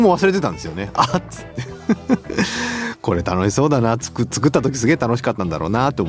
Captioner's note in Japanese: 笑い